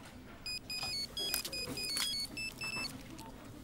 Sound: phone rings

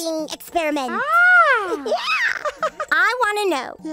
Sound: giggling

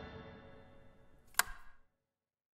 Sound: light Switch

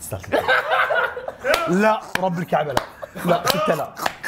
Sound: laughs

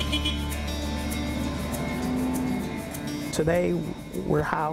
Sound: beep

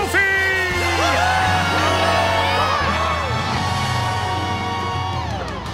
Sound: cheering

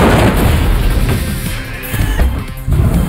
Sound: frustrated groan

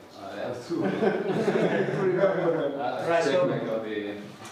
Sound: laughing

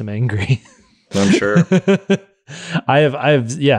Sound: laughing

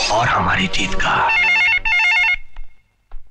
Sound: telephone Ringing

